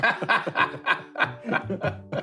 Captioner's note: laughter